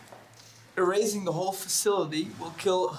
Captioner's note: none